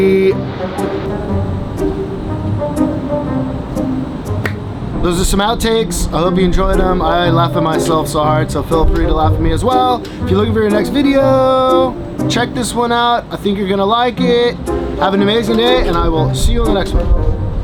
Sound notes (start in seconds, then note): 0.2 playful music; 4.4 claps